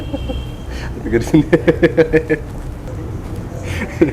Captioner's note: laughing